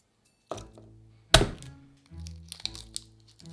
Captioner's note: knife smashing